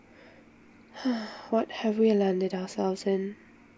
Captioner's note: sighs